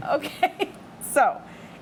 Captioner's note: laughing